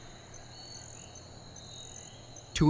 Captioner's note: insects chirping